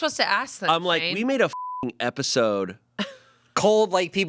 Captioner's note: beep